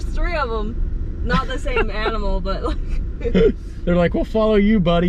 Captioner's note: laughing